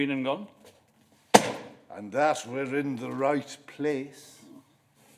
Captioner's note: beckett's holdall thumps to the floor